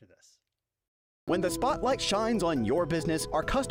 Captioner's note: voiceover